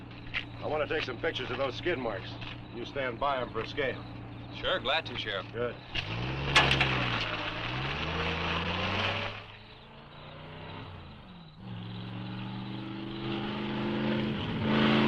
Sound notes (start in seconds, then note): 6.3 truck engine rumbling; 10.3 engine revving